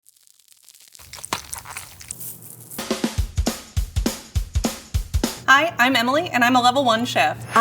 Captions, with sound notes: [parchment paper crinkles] [mixture sloshes] [sprinkles clink] [upbeat music] - Hi, I'm Emily, and I'm a level-one chef.